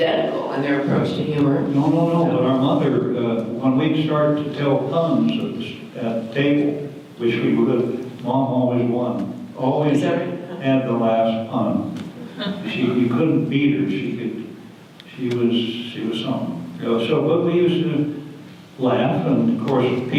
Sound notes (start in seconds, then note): none